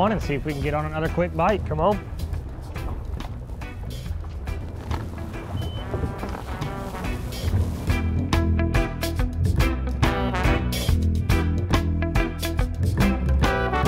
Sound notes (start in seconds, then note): 2.5 mellow tropical music continues; 5.6 device beeps; 6.4 mellow tropical music continues